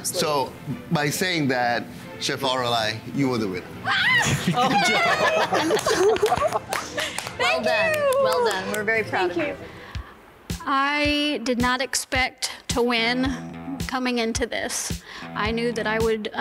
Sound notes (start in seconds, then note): 3.8 squeals happily; 4.7 judges applauding